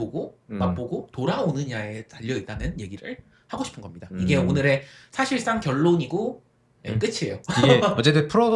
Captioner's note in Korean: 웃음